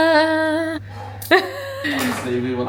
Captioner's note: sighs